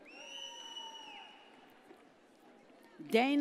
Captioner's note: audience cheers